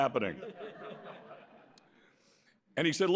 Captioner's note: laughter